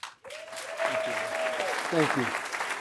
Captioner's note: applause